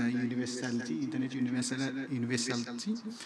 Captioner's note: audio echoing